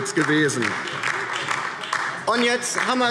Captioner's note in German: Beifall DIE LINKE